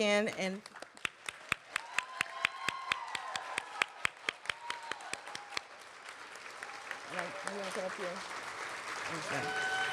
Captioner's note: cheering and applause